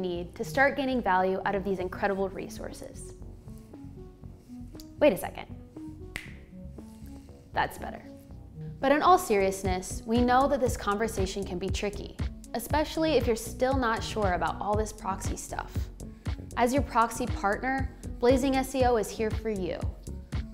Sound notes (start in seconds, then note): 6.1 snapping